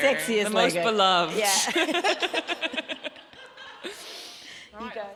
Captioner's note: audience laughs